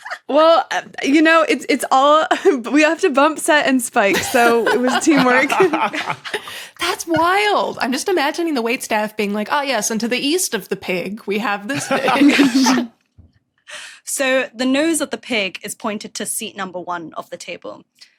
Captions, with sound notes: Well, you know, it's all— We have to bump, set, and spike. So it was teamwork. (group laughing) That's wild! I'm just imagining the waitstaff being like, "Ah yes, and to the east of the pig, we have this dish". (group blurts laugh) So the nose of the pig is pointed to seat number one of the table,